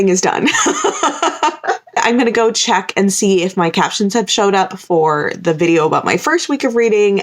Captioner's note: laughter